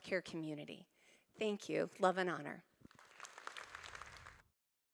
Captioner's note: applause